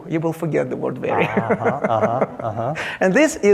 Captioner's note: laughing